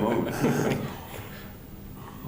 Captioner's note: laughter